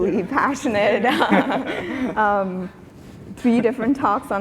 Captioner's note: laughing